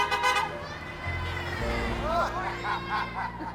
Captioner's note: cars beeping; cars whooshing; people cheering